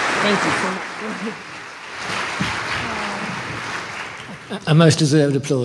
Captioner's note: applause